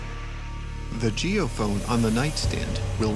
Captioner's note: voiceover